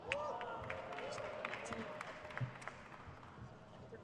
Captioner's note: crowd claps